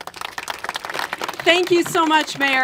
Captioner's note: congregation applaud